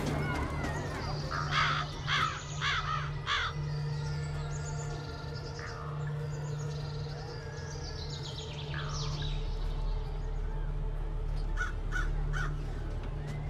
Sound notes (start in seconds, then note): 0.1 crow squawking; 1.5 tense droning